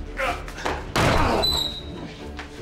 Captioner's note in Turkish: Dövüşme sesleri yükselir